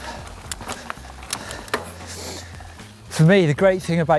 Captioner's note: heavy breathing